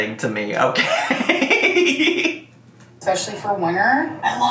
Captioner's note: laughing